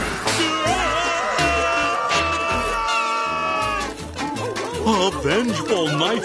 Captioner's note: screaming